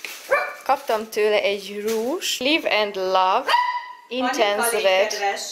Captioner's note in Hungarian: Panni is barking